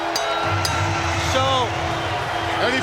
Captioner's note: bell ringing; crowd cheering